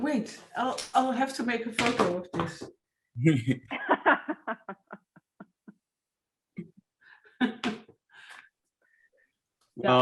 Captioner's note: chuckles